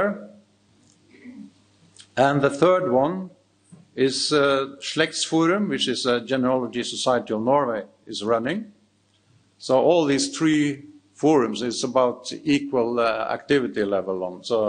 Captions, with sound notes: And the third one is (speaks in foreign language) which is a Genealogy Society of Norway is running. So all these three forums is about equal activity level